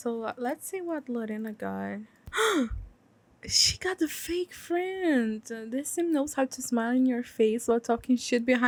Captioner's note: gasp